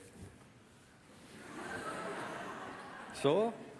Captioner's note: laughter from the audience